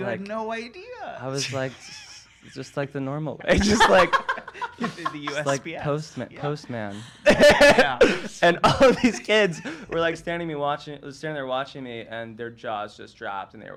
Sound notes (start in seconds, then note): 3.4 laughs